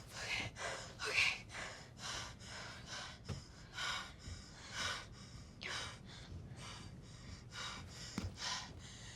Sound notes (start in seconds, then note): 3.3 pants